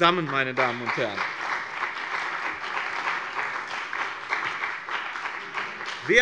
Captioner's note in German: Beifall bei dem BÜNDNIS 90/DIE GRÜNEN und der CDU